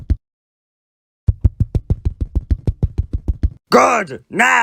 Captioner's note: returning footsteps